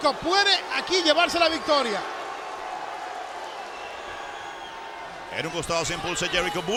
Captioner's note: applause